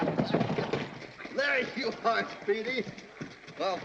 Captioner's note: chuckling